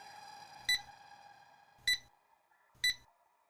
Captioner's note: beeping